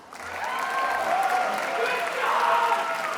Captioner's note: attendees applauding